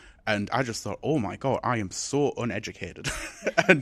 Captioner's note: chuckles